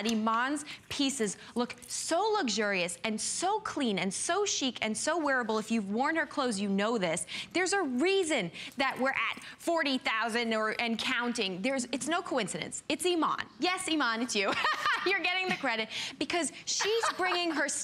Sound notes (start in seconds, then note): 16.8 laughter